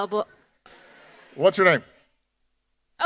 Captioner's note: audience laughing